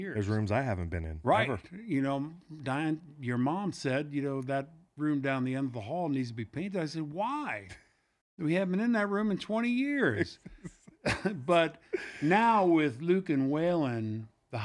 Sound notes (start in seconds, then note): 10.0 laughs